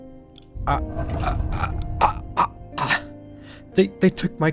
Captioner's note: disbelief Choking Soundsi